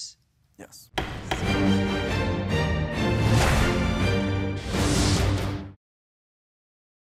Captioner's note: gavel banging; dramatic music